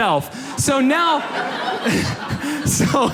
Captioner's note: audience laughs